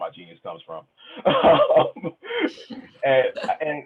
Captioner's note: laughs